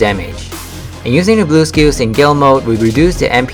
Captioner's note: gale